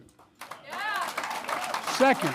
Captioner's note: applause